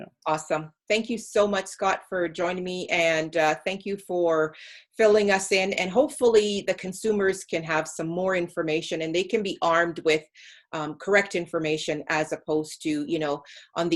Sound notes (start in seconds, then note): none